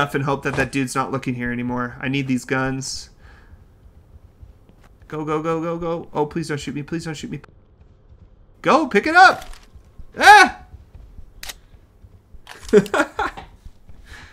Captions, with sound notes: and hope that that dude's not looking here anymore. I need these guns. Go, go, go, go, go. Oh, please don't shoot me. Please don't shoot me. Go pick it up. Ahh! [Laughs]